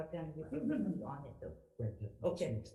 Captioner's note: speaking quietly with assistant